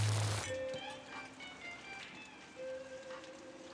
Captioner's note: thunder rumbling